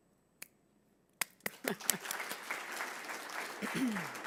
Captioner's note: audience applauding